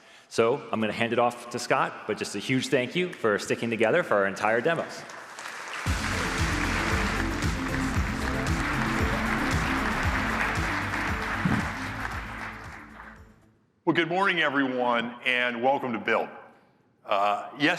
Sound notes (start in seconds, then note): 5.0 applause